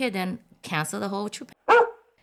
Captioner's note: bark.Bark